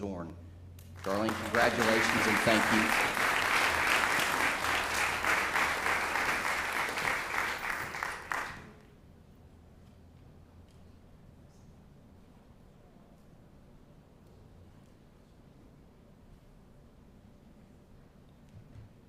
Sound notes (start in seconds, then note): 7.6 applause